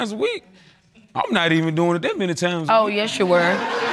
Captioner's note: laughter